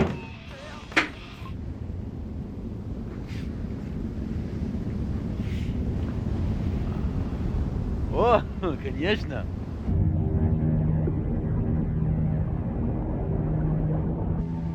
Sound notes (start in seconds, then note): 9.4 speaking in foreign language; 11.7 suspenseful music